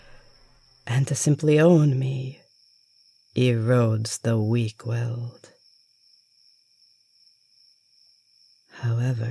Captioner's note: humming fades